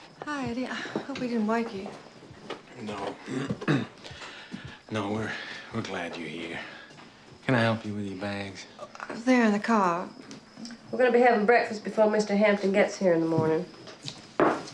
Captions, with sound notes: - Hi, Eddie I hope we didn't wake you. - No. (coughs) No, we're glad you're here. Can I help you with your bags? - They're in the car. - We're gonna be having breakfast before Mr. Hampton gets here in the morning.